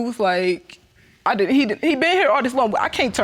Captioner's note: stutters